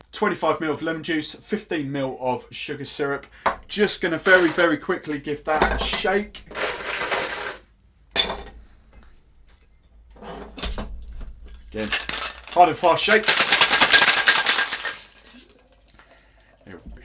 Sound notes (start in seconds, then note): 7.6 ice rattling; 13.3 ice rattling